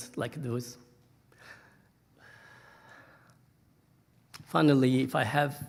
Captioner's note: breathing shakily